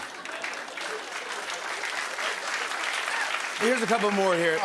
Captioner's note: applause